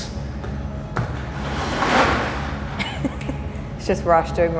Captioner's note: laughing